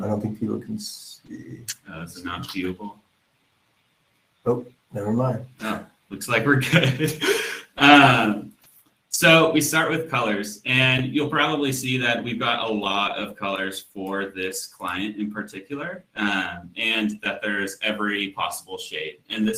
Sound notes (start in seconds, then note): 6.6 laughs